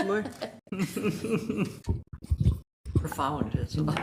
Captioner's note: regents chuckle